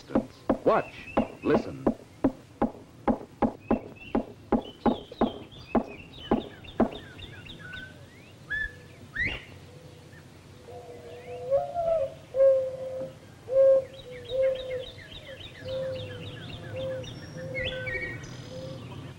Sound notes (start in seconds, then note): 2.0 woodpecker pecking; 5.6 birds singing; 7.6 bobwhite call; 10.5 mourning dove song